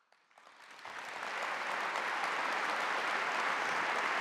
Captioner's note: audience applauding